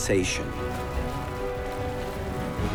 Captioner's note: water lapping